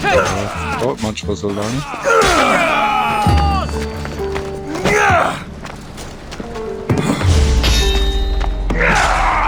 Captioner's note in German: stöhnen